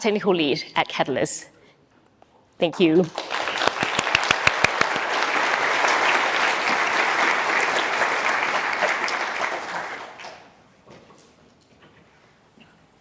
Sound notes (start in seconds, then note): 2.8 applause